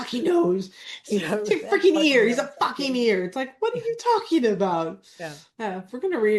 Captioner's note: laughs